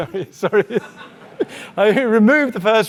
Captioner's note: audience laughing